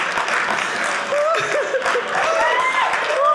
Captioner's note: audience laughing; audience clapping